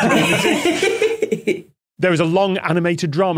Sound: group laughing

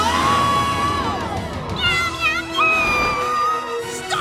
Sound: meowing

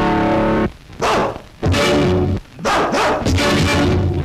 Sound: dogs Barking Voice

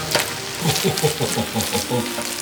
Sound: laughing

